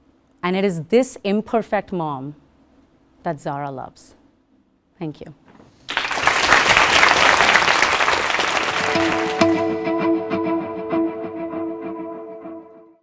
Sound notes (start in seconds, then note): 5.8 applause